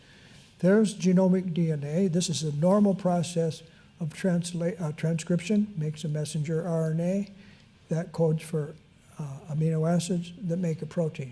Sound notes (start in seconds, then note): none